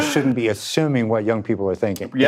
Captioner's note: laughs